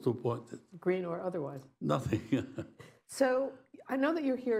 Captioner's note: laughs